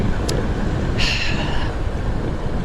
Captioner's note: sigh